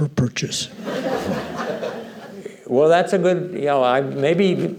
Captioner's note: laughter